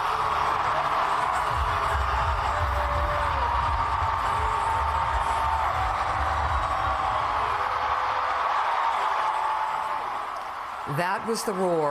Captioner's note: applause